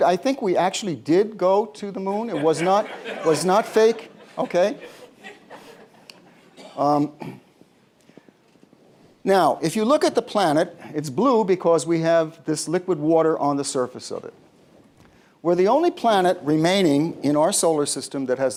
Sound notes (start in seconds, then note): 4.8 laughter